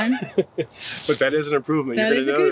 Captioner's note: laughs